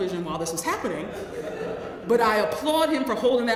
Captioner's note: laugh